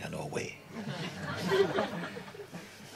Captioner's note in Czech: smích